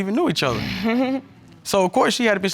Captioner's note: chuckles